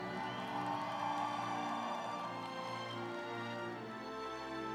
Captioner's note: audience applauds